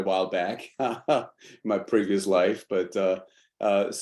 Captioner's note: laughs